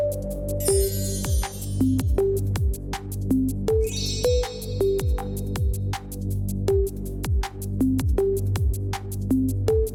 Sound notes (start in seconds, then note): 0.6 bells chiming; 3.8 bells chiming